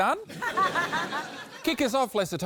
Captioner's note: laughter